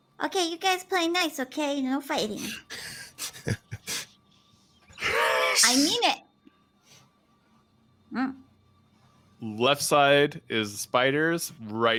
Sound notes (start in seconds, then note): 3.1 people laughing; 5.0 grunts